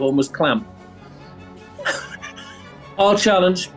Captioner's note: sniggering